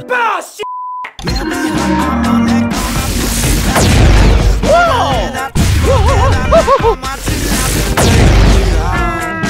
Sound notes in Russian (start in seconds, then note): 2.8 звук заряда; 2.8 пух!; 5.3 взрыв; 7.2 пух!; 7.2 звук заряда